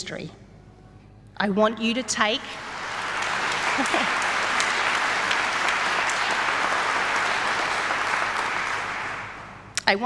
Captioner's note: clapping